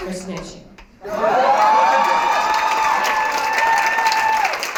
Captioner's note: applause, cheering